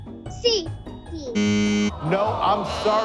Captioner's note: machine beeps